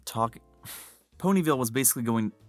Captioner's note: exhale